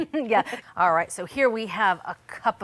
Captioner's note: laughing